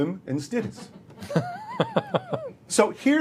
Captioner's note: laughter